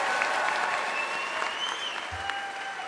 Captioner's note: applause